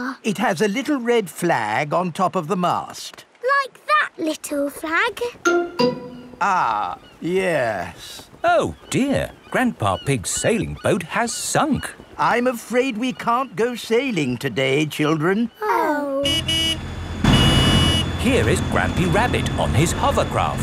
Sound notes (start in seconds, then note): 16.2 honking